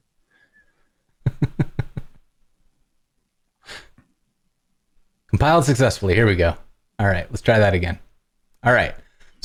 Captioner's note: laughter